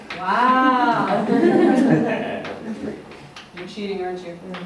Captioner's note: laughter